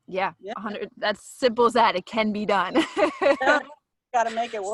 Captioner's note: laughs